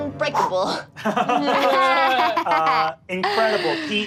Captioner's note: all laugh